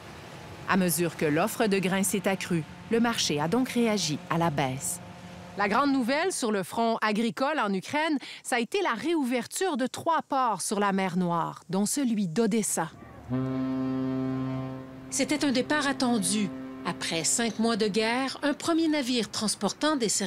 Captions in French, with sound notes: - À mesure que l'offre de grains s'est accrue, le marché a donc réagi à la baisse. La grande nouvelle sur le front agricole en Ukraine, ça a été la réouverture de trois ports sur la mer Noire, dont celui d'Odessa. (sirène de navire) - C'était un départ attendu. Après cinq mois de guerre, un premier navire transportant